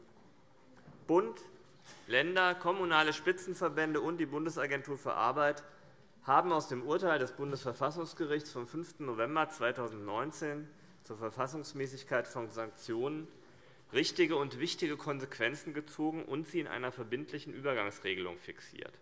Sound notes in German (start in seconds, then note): none